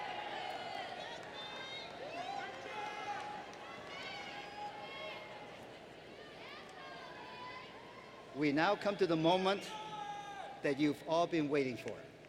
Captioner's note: cheers and Applause